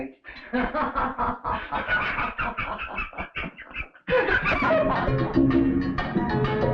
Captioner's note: Elizabeth and Pepe laughing